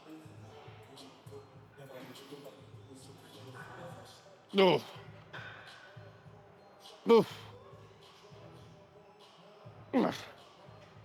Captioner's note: man speaking in foreign language